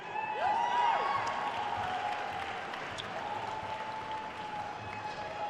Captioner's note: attendees cheering and applauding